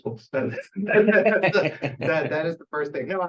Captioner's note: laughter